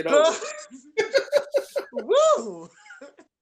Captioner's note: laughs